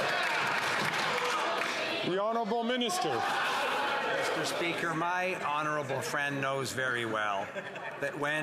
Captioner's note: some Applause